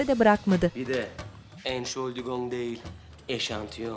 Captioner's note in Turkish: Almanca konuşma